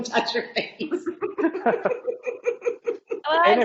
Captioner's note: laughing